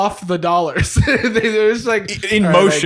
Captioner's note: laughs